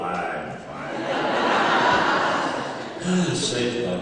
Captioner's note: laughter